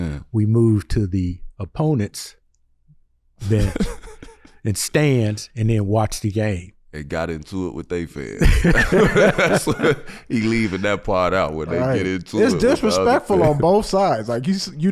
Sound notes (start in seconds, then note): 8.4 everyone laughs